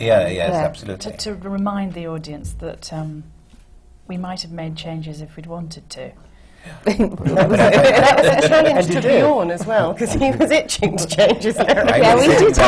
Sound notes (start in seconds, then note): 6.8 laughter; 9.9 laughs; 11.6 laughter